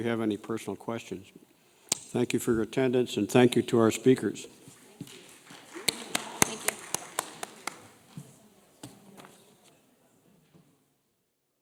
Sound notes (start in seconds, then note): 5.3 audience applause